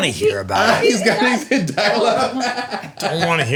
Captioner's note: laughing and crosstalk